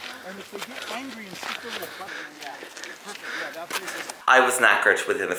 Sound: group chattering

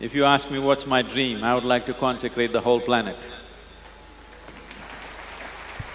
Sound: participants Clap

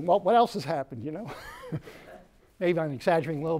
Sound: laughs

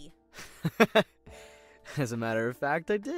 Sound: laughs

